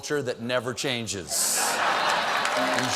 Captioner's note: laughter; applause